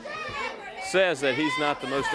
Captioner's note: crowd chatter